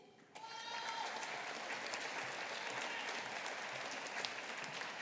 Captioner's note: audience applauding